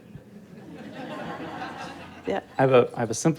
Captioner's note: audience laughing